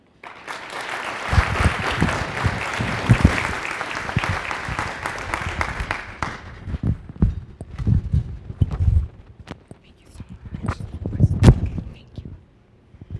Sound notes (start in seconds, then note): 0.0 applause; 10.1 whispering